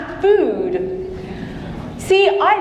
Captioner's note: audience chuckling